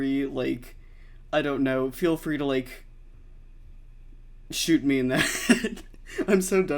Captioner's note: laughs